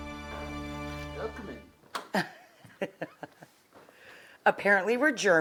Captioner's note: Rachel laughs